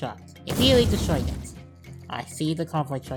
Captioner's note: explosion